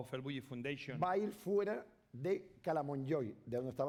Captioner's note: speaking spanish